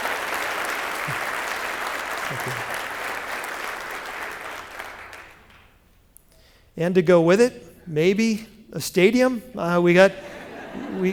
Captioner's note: applause